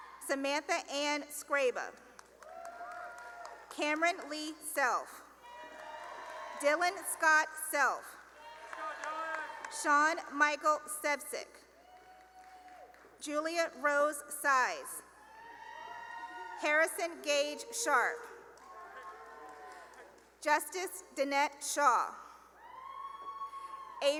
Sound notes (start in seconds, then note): 2.2 cheering and applause; 5.4 cheering and applause; 11.4 cheering and applause; 15.1 cheering; 22.6 cheering